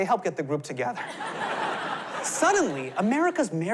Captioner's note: laughter